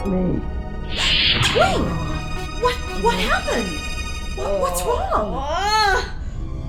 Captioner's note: gasp; T'Ling howling in pain